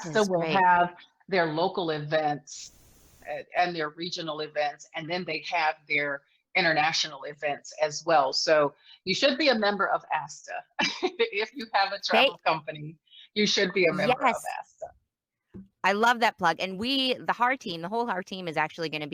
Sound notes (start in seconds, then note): 10.3 laughs